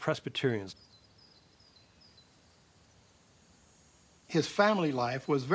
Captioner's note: birds chirping